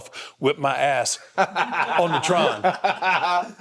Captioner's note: Cody laughing